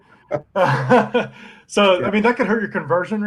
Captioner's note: all chuckling